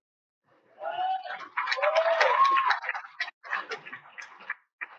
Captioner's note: cheers and Applause